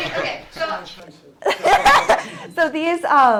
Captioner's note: laughs